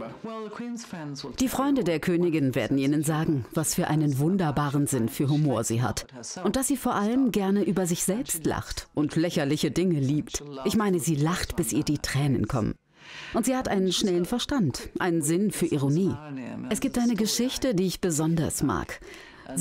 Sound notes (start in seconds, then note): none